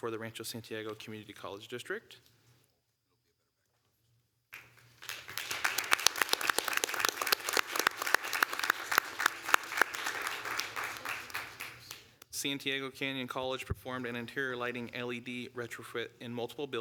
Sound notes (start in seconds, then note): 7.2 applause